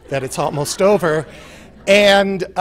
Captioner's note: laughter